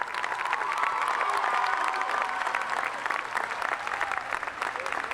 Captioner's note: cheers and applause